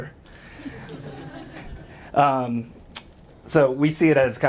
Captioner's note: audience laughs